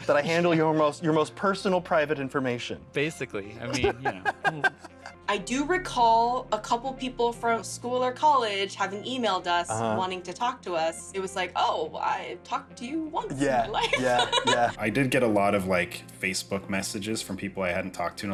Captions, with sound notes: -That I handle your most personal private information. -Basically. [laughter] -I do recall a couple of people from school or college having emailed us wanting to talk to us. It was like, "I've talked to you once in my life." [laughs] -I did get a lot of Facebook messages from people I hadn't talked to in a